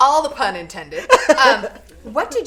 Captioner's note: laughing